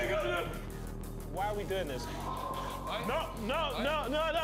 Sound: screams echo

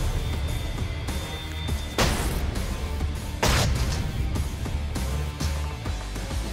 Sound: rock music; blade impacts

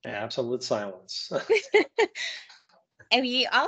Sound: laughing

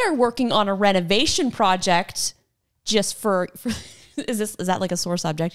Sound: laughs

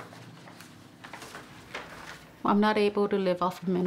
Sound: papers rustling

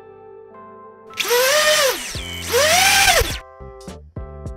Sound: motor noise

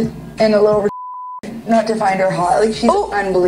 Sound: beep

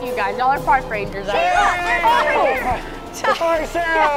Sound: yells

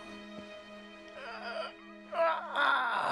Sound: groaning

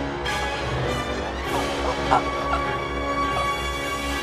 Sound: gasps for air

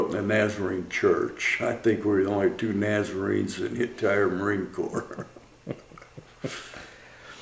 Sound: laughter

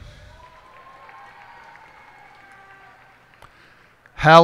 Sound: cheers and applause

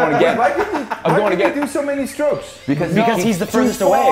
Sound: laugh

